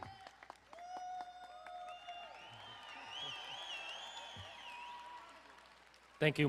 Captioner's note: crowd whistling